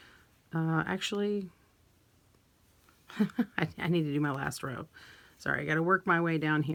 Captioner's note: chuckles